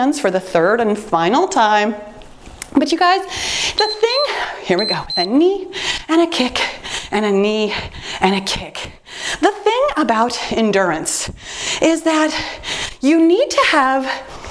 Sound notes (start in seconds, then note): 3.7 timer beeps